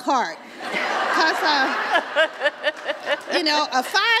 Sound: laughter

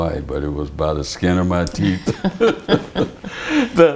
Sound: laughter

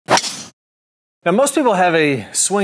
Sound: woosh effect

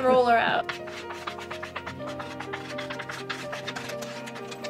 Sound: laughing

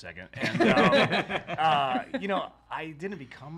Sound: all laughing

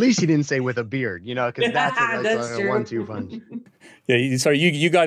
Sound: laughs

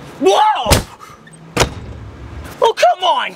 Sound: door closes

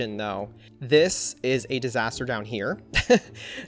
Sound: laughs

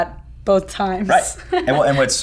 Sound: laughing

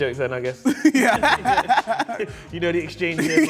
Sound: both laughing

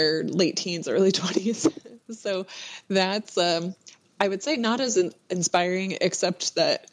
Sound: laughs

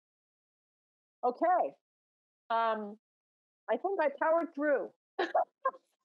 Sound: laughing

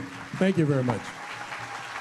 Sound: applause

